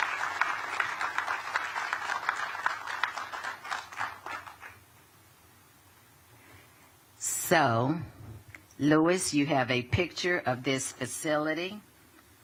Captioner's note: applause